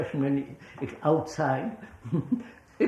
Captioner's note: laughs